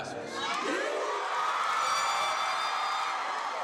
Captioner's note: audience cheering